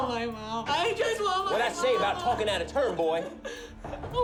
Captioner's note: jimmy whimpering